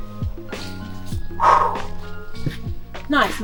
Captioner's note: still catching her breath